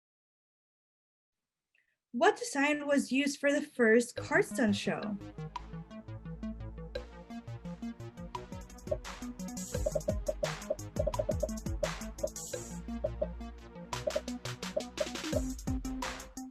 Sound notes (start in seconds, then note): 5.3 popping; 5.3 upbeat music